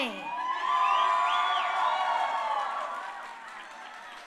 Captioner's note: crowd cheering